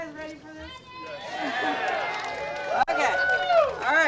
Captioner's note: audience cheers and applauds